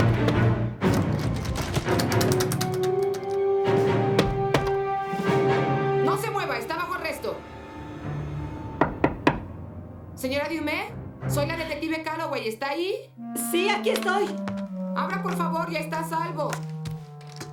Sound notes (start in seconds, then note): 1.5 banging; 8.8 knocking